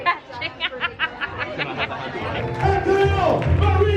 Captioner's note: laughs